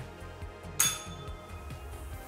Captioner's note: bell rings